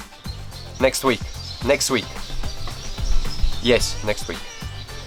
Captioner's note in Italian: Inglese